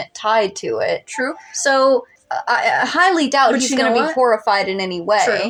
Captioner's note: stutter